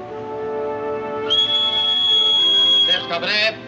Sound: bosun's whistle

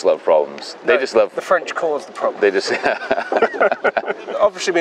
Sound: both laugh

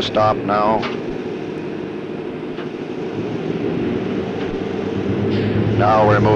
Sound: sound of the train moving

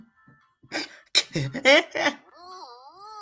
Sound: Imitates Game's Laugh

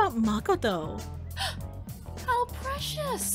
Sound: OTOME gasps

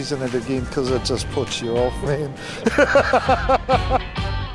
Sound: laughs

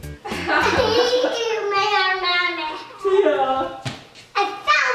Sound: laughing; baby talk

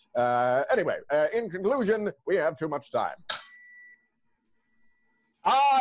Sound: tuning fork dings

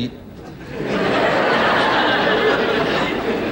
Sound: laughter

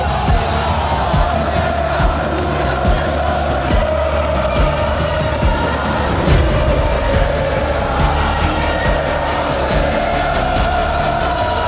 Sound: Crowd chanting for FURIA

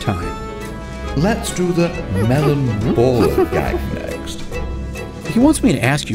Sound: ape noises

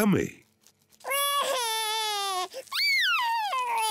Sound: cries

